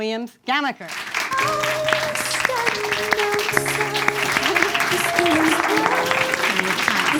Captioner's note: audience claps; wistful music